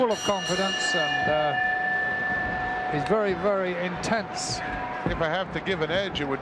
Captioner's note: bell dinging